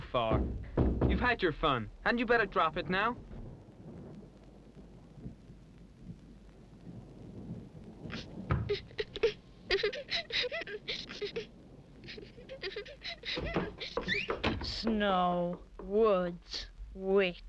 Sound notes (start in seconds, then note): 7.7 sobbing